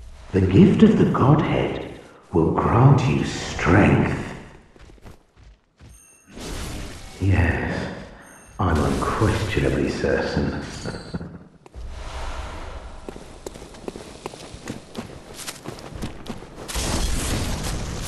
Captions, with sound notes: The gift of the Godhead, will grant you strength Yes. I'm unquestionably certain... *chuckles*